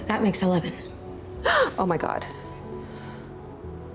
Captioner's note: gasps; sighs